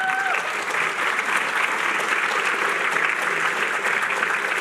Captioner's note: applause